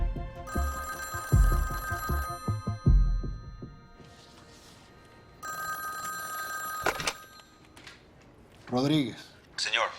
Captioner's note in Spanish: Suena el teléfono